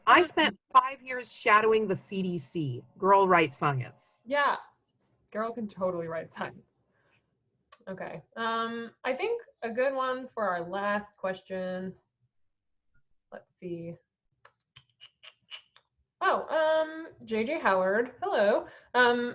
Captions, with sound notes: I spent five years shadowing the CDC, girl writes science. - Yeah, girl can totally write science. Okay, I think a good one for our last question, let's see. (mouth clicking) Oh, JJHoward, hello.